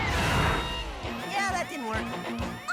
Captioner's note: whooshes; alarm blares